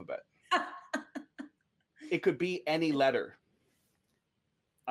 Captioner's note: laughs